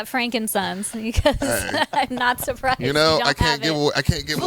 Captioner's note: laughs